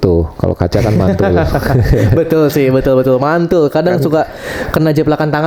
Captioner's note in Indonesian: tertawa